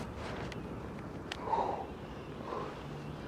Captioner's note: exhales